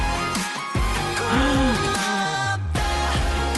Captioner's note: gasp